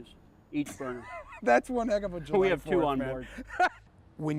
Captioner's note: laughs